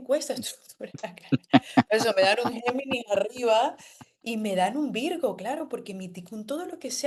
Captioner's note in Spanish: risas